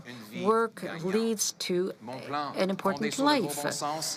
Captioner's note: speaking French